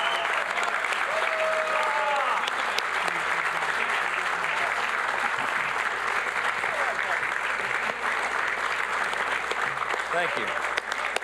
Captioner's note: applause